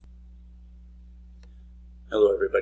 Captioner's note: silence